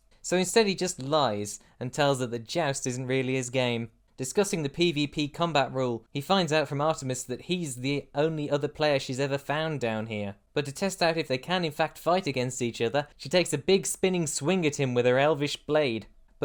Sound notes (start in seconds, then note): none